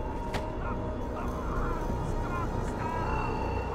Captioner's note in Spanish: Gritando